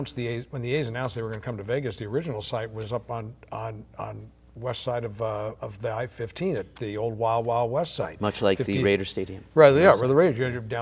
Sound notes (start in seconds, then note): none